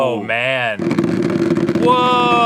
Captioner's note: not discreet vibration against table